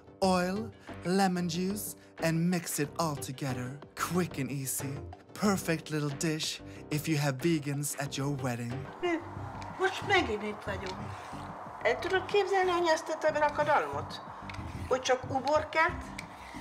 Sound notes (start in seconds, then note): 9.9 in Hungarian